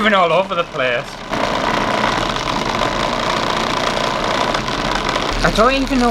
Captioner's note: loud Motor Sounds